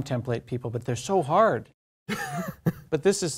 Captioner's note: laugh